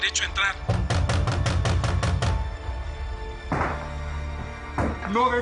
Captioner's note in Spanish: De nuevo golpean la puerta